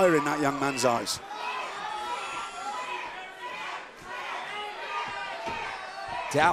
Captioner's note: crowd cheering